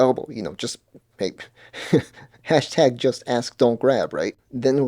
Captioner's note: laughs